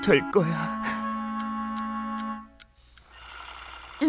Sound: clock ticking

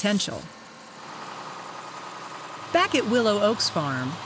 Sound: tractor sounds

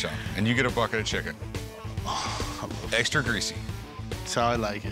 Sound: exhales

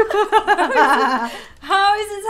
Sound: laughs

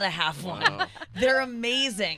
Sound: laughing

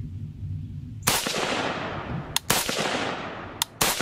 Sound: gunshots

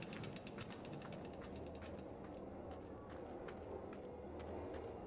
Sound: mine cart rolling distantly

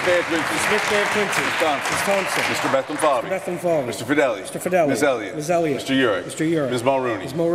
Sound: applause

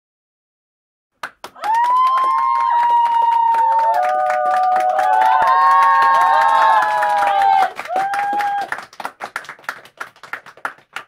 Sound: sound of cheer and applause

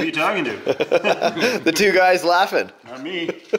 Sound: laughs

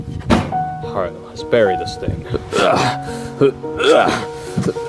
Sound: grunting

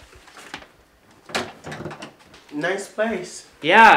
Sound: door closes

